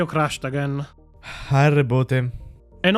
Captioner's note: sigh